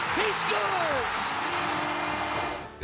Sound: horn blaring

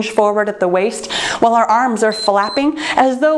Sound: timer beeps

